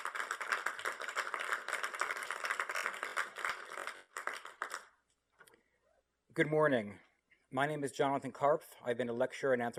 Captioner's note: applause